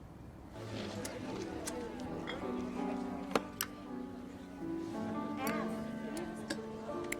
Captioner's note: patrons chattering; gentle music